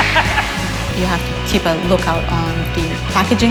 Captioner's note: laughs